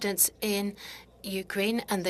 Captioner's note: speaking French